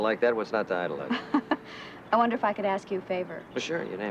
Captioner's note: chuckles